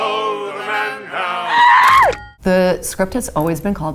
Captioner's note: scream